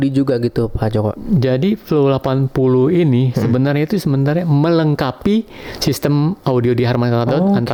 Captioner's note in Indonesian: berdehem